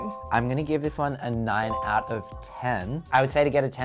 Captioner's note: bell chiming; bell chiming